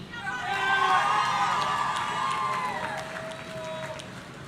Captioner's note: audience cheering